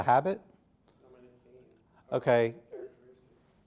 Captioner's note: softly talking off mic